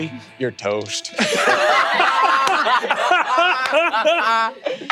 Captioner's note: players laughing